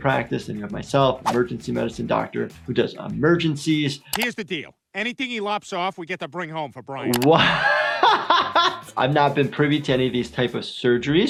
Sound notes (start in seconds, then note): 7.2 laughs